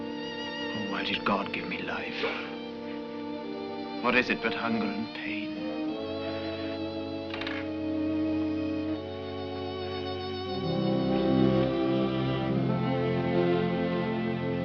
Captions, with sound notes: Oh, why did God give me life? What is it but hunger and pain? [door creaks open]